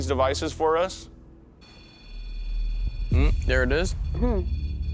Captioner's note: beeping